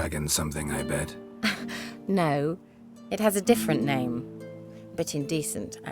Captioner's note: chuckle